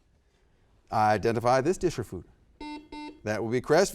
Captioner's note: buzzer beeps